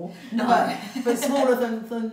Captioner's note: laughs